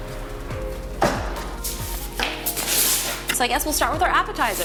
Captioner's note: fridge door closes